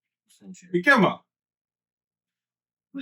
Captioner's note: speaking In Foreign Language